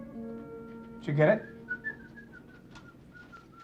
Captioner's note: whistling